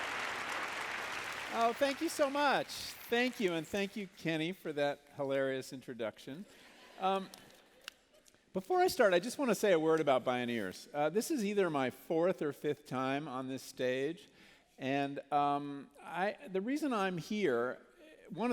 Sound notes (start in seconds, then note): 7.2 laughter